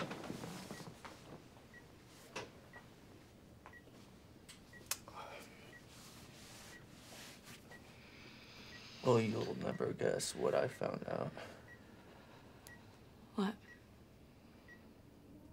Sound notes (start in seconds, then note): 0.6 monitors beeping; 5.0 Drew sighs